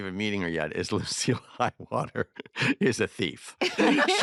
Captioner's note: all laugh